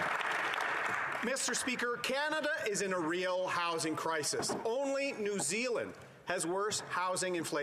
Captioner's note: cheering and Applause